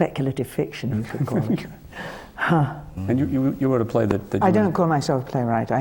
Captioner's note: laughs